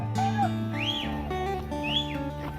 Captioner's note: whistling